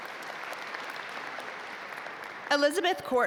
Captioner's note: audience applaud